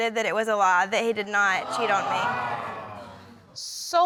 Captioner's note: audience exclaims